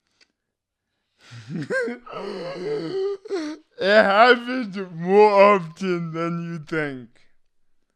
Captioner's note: laughs